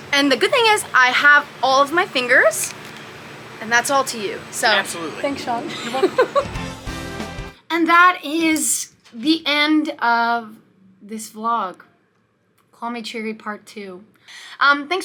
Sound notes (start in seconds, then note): 4.6 laughing; 7.2 upbeat bright music